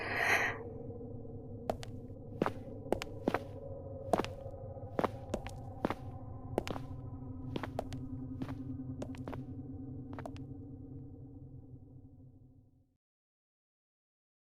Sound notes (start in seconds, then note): 1.6 footsteps fading out